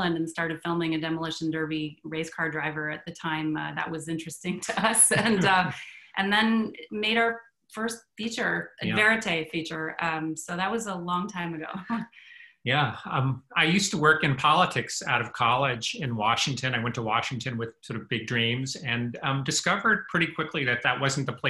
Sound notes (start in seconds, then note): 4.9 chuckles; 5.0 laughs; 12.7 chuckles